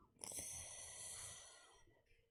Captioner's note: sharp intake of breath